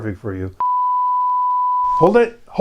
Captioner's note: beep